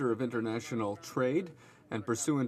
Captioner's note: speaking French